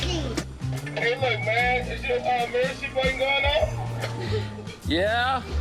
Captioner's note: laughter